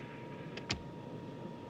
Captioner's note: click